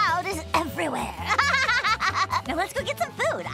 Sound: laughing

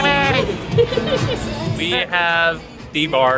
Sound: laughs

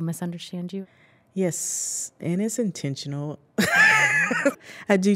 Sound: laughs

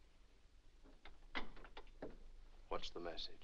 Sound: door closes

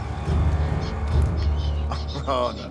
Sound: dramatic suspenseful music; bird screeches; Maui chuckles

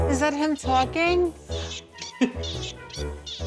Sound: recording squeaking

